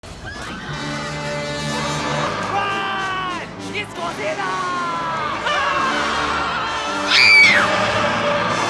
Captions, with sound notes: [Intense music] Ruuuuun, it's Godzillaaaaa! [People screaming] [Womanly scream]